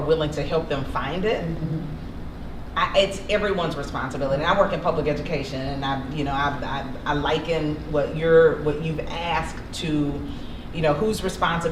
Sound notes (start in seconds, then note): none